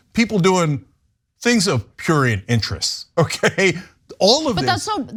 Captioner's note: laugh